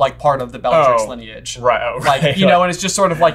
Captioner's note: laughing